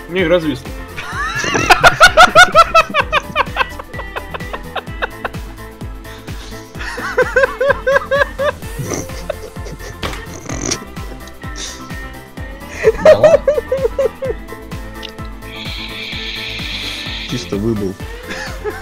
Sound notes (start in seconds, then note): 1.7 two are laughing